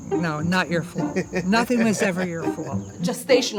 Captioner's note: laughter